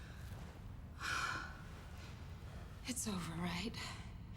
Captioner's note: sighs